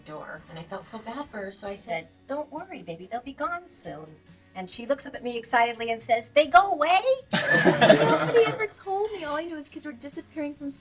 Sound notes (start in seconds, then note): 7.3 laughing